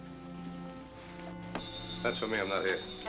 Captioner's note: ringing phone